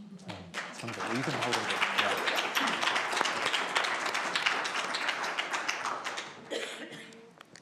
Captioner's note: applause